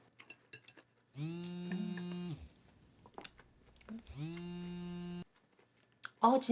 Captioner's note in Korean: 휴대전화 진동음